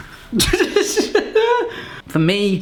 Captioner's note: laughing